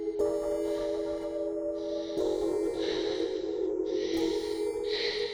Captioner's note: person panting